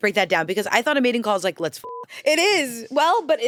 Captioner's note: beep